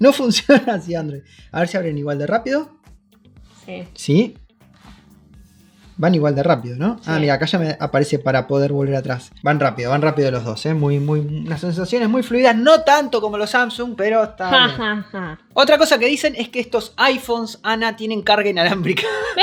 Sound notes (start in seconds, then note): 14.5 sarcastic laugh; 18.9 laugh noises